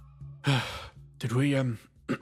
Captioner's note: sigh